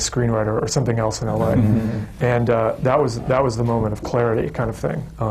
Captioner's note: laughter